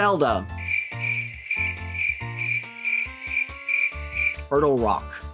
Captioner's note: crickets.wav